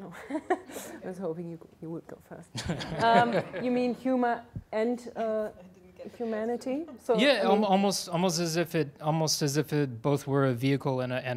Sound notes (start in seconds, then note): 0.8 laughs; 2.5 laughter